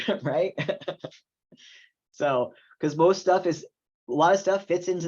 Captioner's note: laughs